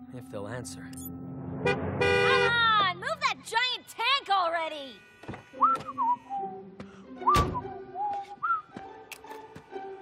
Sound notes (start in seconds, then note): 1.4 honking horn; 5.7 whistling